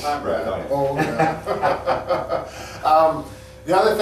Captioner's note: both chuckles